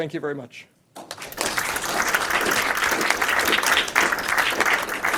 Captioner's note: audience applauding